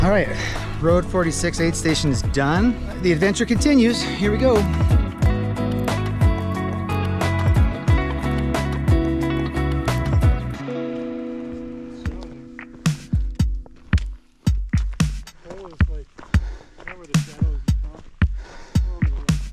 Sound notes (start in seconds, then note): 7.4 footsteps crunching; 12.2 runners chattering